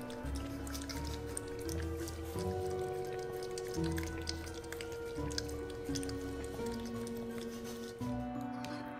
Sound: little licks by Morty

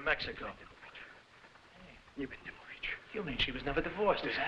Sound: Oskar mumbling in foreign language

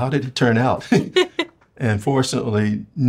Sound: both laughing

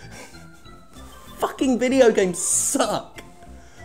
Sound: laughing

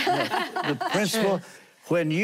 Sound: laughing

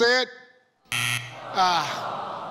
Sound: tone buzzing

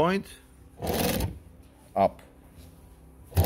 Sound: machine whirs; machine whirs

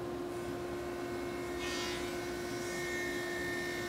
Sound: saw zings

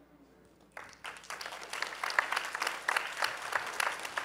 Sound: applause

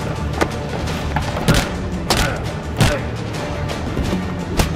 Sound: grunting sounds

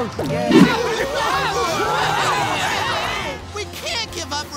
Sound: screaming

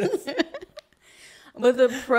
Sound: both laugh

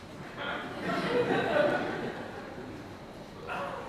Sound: audience laughter

